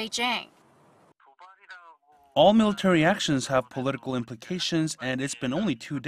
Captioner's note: Korean